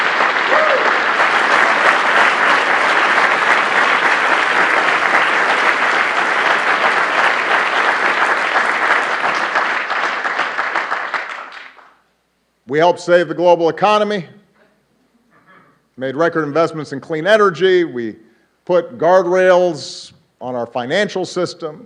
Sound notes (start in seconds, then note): 7.0 applause